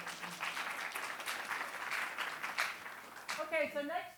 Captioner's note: applause